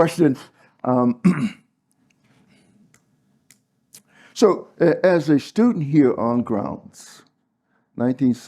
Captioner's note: cough